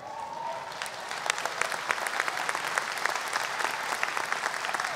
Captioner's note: audience applause